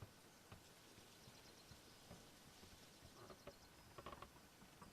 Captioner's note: birds chirping